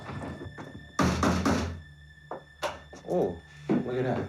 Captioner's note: knocks